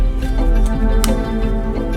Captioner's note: pop